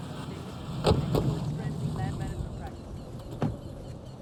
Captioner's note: car doors thud